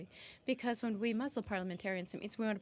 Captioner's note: speaking french